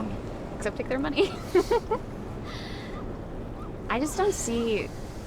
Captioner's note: laughs